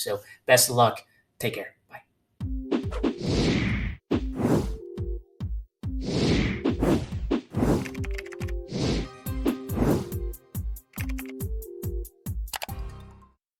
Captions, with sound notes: so best of luck, take care, bye. (upbeat music) (transition swooshes) (keyboard clicking) (transition swooshes) (keyboard clicking) (mouse click)